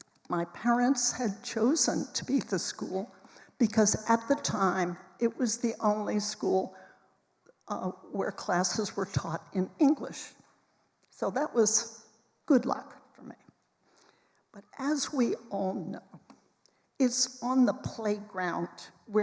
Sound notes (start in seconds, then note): none